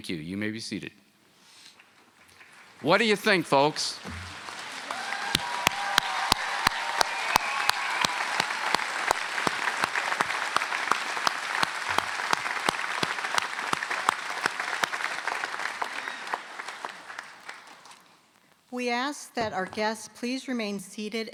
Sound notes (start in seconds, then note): 3.6 applause; 5.4 cheers and Applause